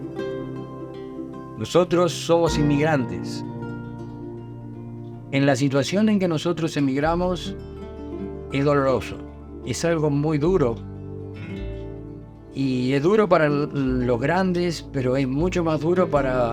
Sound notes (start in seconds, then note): 1.5 interviewee speaking in foreign language